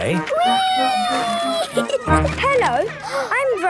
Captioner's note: giggling